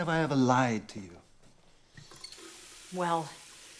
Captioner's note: faucet running